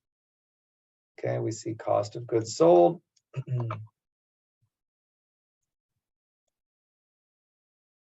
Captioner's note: cough